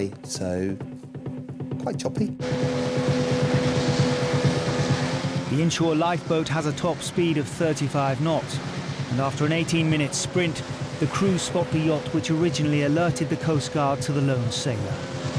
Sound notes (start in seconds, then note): 2.6 engine roaring